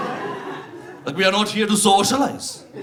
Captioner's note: audience laughs